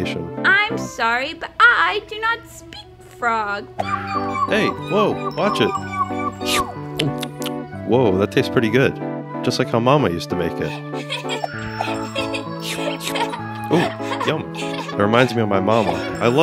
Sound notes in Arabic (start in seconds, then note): 10.7 حشرة تضحك